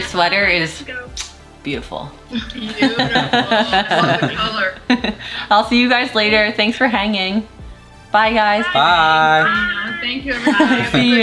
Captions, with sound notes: Arrie, your sweater is beautiful. (laughing) I'll see you guys later. Thanks for hanging. Bye guys. - Bye. - Thank you.